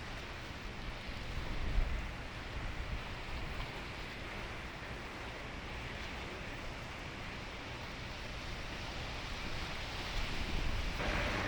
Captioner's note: water rushing